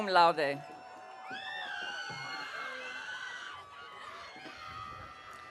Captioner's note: audience cheering